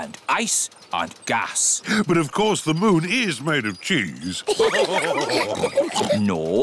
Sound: all laugh

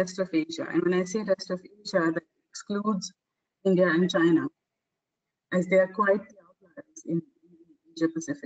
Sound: audio static

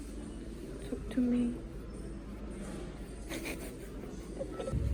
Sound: haha

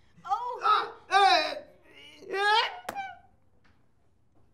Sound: groaning

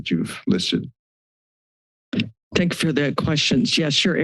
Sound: silence

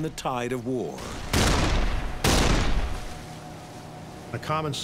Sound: cannon shots exploding

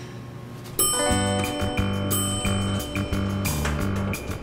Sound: elevator dings

